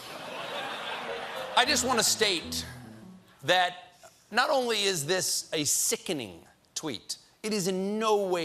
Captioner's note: laughter